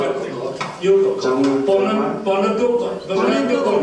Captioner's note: speaking Hoisin-wa